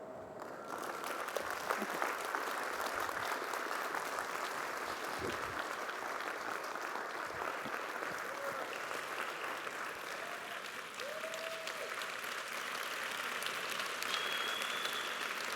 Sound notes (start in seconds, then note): 3.5 applause